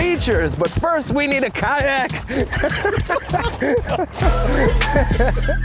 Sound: laughing; upbeat music

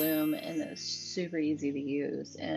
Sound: chime rings

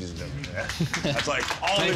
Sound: applause

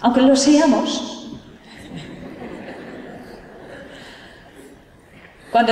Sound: laughter

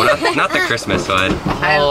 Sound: laughter

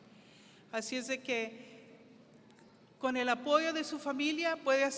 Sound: speaking foreign language

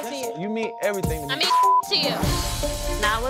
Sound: beeping

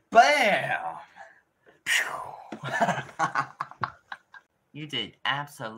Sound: insert more laughing

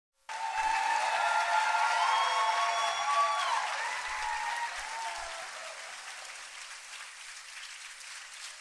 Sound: applause and cheering

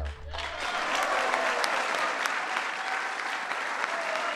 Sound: clapping

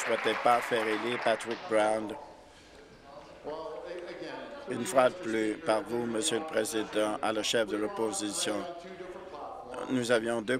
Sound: applause

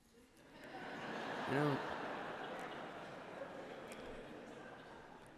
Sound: laughter

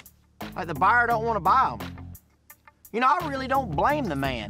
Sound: scoffs

